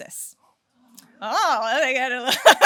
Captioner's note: laughs